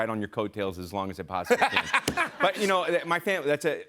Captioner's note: laughter